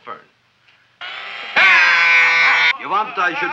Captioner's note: man screaming; drill whirring